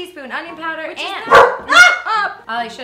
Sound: dog barks

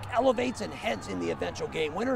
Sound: cheering

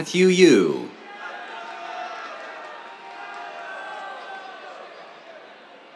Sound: cheers

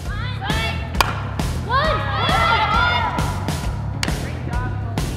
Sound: players shouting

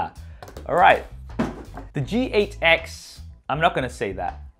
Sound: box clattering

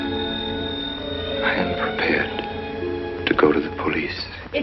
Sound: phone ringing

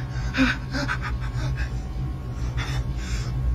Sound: gasping in pain

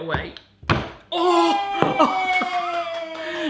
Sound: cheering

